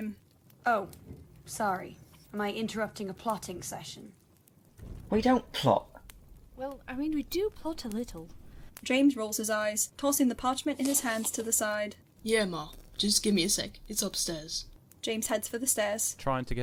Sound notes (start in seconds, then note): 10.2 parchment rustles